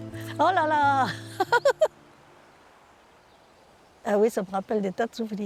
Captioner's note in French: rires